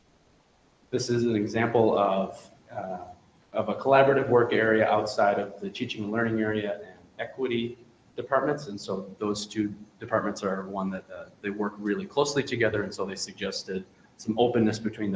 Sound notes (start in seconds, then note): none